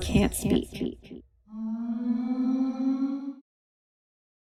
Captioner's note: caveman groan